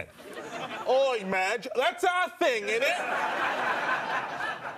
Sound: in British accent; audience laughter

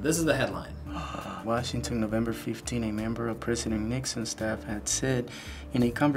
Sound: gasps

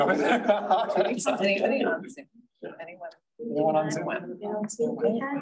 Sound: indistinct conversation

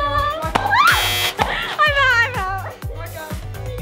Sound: buzzer buzzes

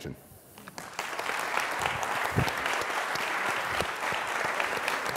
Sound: applause

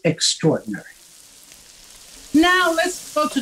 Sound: food sizzling sound

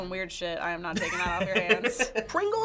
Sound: chuckles

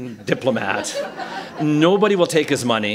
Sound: laughter

